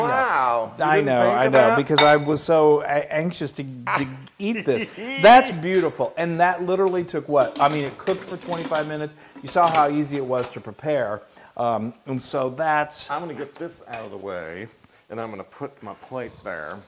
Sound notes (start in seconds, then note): 4.7 laugh